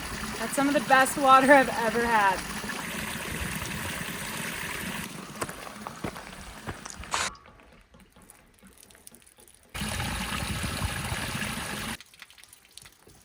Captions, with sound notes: That's some of the best water I've ever had. (water splashing) (footsteps crunching) (water splashing)